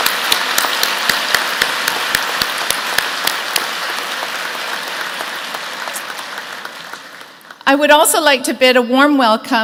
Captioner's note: applause